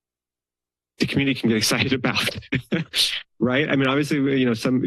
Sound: laughs

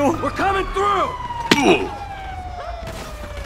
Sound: minecraft hurt

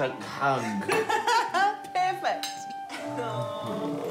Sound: laughs

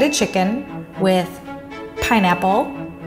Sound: bell dinging

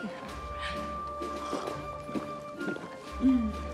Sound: gulping

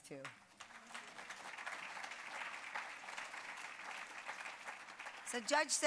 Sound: applause

